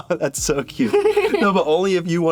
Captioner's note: laughs